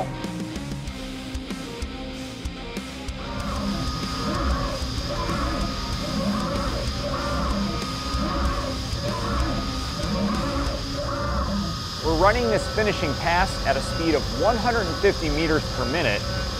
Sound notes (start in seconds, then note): 3.0 machining noises